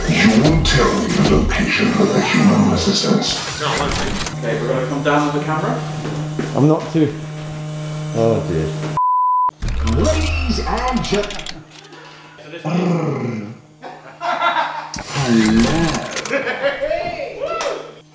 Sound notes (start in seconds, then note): 9.0 standby beep